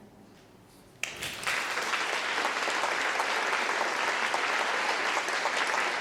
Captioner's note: applause